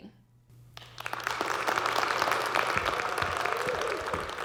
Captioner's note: audience clapping